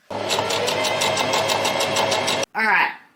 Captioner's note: sewing machine noises